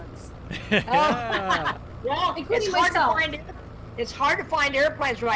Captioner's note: Wally laughs; laughs